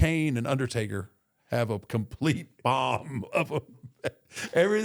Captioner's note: chuckles